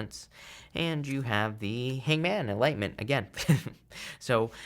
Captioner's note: chuckles